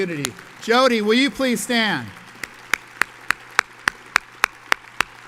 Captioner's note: audience applauds